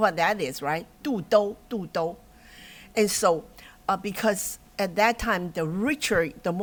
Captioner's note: non-english speech